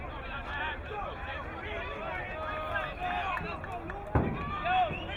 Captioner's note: crowd cheering